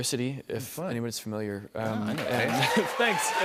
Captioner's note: cheers and applause